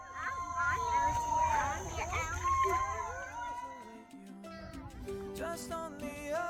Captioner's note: howling